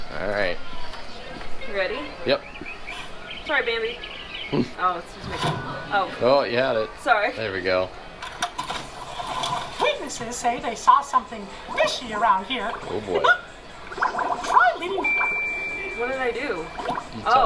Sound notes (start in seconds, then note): 14.2 laughs; 15.0 bell tinkling